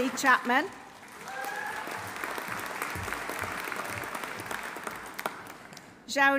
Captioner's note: audience applauding; audience cheering